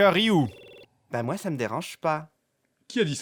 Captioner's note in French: Voix d'un homme efféminé